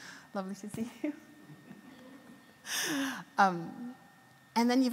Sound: laughs

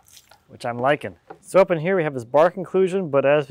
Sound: water splashes

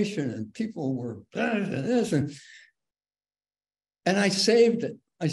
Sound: grunts

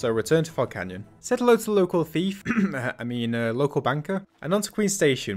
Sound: cough

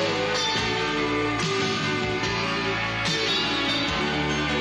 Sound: applause

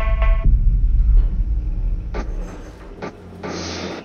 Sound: dull booming thump, spitting sound

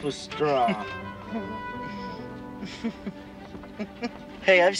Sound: Nancy giggling

